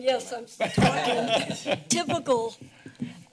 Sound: laughing

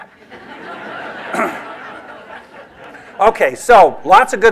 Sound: laughter

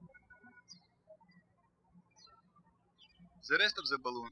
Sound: birds chirping

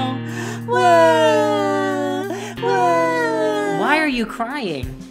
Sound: both crying

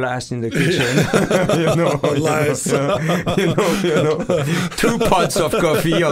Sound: both laughing

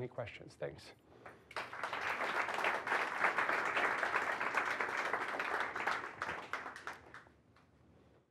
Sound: applause

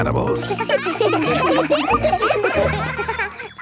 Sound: children laughing

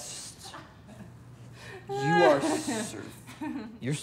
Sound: laughing

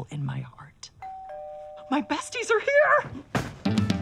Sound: doorbell rings

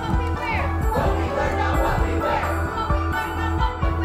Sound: crowd

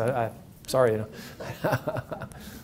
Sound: laughs

